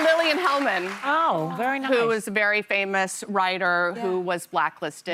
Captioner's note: cheers and applause